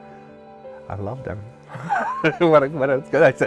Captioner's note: laughter